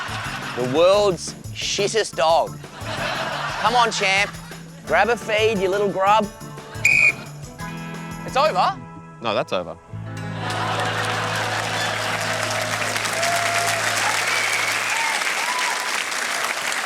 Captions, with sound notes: The world's shittest dog. (LAUGHTER) Come on, champ. Grab a feed, you little grub. (WHISTLE BLOWS) It's over? No, that's Over. (LAUGHTER AND APPLAUSE)